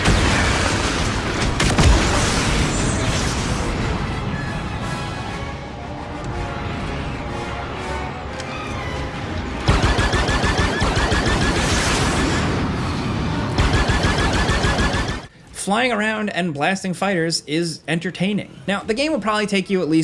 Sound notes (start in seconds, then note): 0.0 missile whooshing; 1.7 explosion booming; 4.3 tense orchestral music; 9.6 lasers blasting; 11.7 spaceship zooming; 13.5 lasers blasting